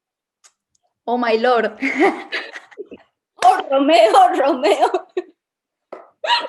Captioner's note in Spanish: risas